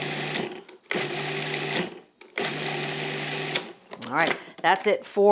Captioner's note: processor whirs